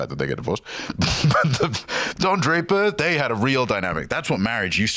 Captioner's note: laughs